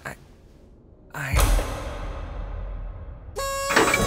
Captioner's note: clang!; whistle toots